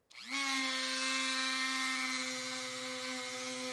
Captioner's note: Dremel buzzes